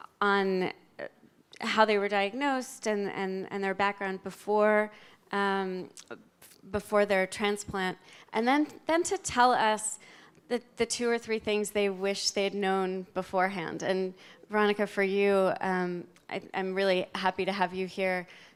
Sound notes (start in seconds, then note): none